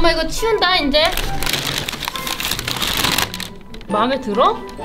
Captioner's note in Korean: 바스락 소리